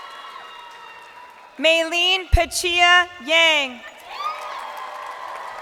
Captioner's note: crowd cheering